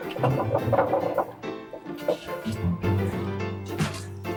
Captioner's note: bowl clacks